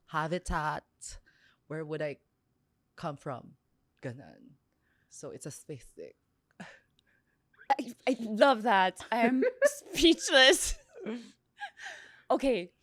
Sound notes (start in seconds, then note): 9.1 laughs; 11.8 laughs